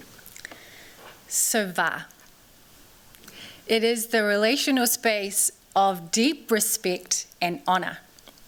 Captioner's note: non-english